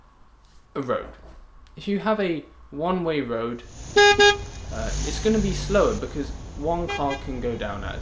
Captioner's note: horn beeping